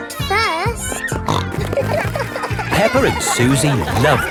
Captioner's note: snorting